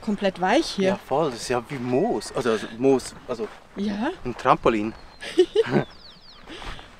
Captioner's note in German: Lachen